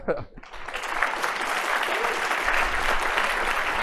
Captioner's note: applause